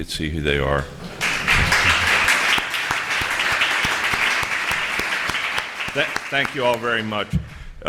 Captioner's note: applause